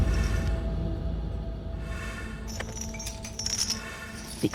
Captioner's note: person breathing heavily